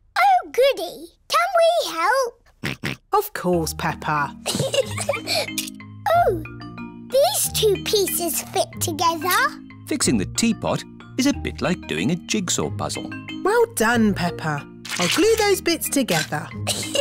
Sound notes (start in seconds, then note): 2.5 snorts; 4.4 giggles